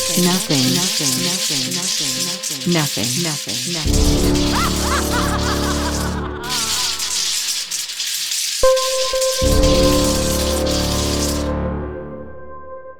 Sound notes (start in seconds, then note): 3.8 laughs evilly; 8.7 dramatic ambient music